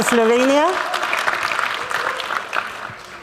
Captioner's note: applause